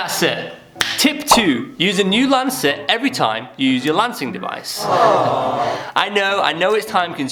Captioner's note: aww sound effect